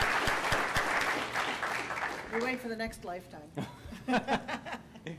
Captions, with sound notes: We're waiting for the next lifetime. (laughter)